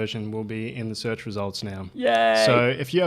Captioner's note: mock cheers